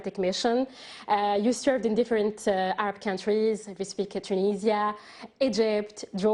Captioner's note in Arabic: تتحدث الإنجليزية